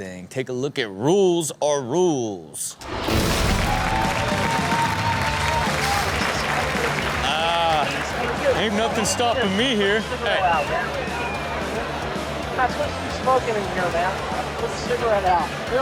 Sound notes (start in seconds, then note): 2.2 audience cheers; 3.7 hard rock music; 11.6 audience laughs